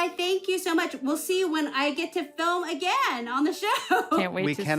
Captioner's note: chuckles